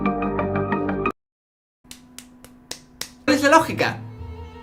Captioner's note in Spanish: aplausos